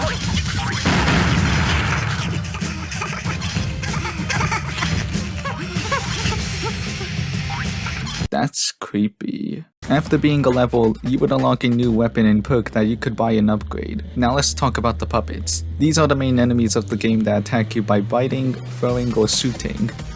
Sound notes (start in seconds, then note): 2.0 laughs